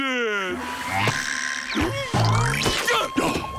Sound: grunting

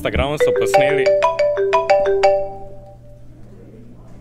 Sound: telephone ringing

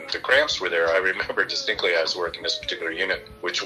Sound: chuckling

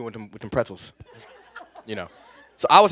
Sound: laughter

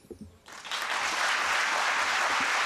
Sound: applause

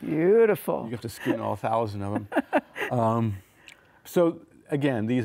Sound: laughing

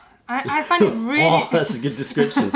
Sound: laughter

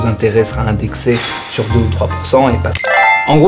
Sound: sighs

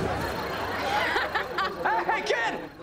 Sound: laughing

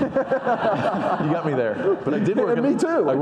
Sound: audience laughing

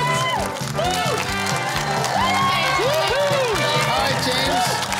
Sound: cheering

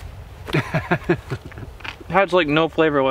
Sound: man laughs

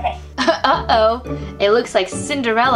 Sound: voiceover

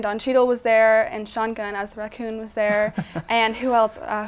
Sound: laughs

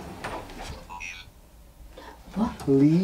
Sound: robot Voice

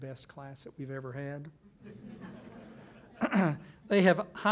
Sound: laughing

